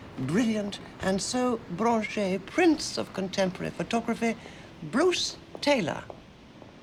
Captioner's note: french